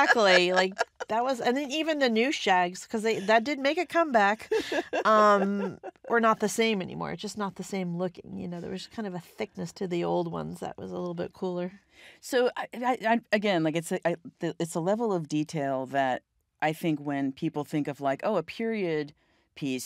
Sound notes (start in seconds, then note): 0.0 laughs; 4.2 laughing